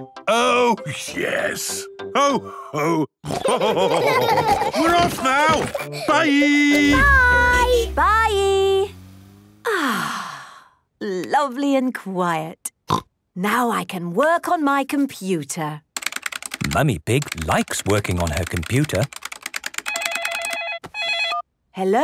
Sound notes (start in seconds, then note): 3.2 laughter; 6.2 honking; 9.6 contented sigh; 11.8 snorting; 19.7 phone ringing